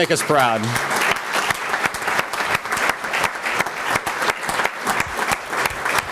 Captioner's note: applause